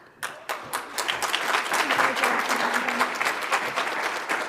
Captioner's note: audience applauds